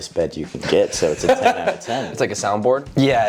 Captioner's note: laughing